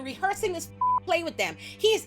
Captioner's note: beep